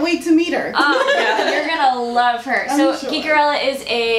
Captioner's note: laughter